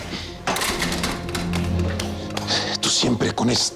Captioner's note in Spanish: Sonido al cerrar la puerta